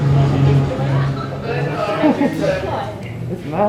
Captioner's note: giggling